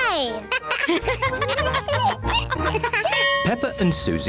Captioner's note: all laugh